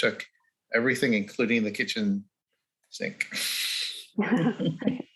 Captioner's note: the group laughing